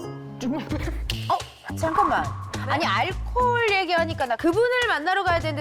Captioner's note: realization sound effect